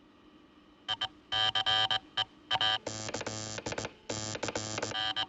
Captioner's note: Californian- MORSE CODE